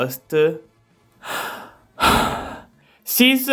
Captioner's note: sigh